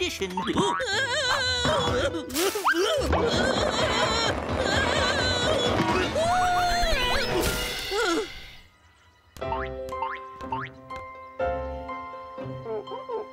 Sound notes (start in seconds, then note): 2.1 shouting; 5.8 shouting